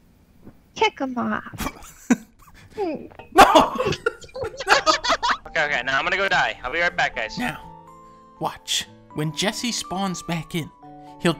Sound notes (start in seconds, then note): 4.7 laughing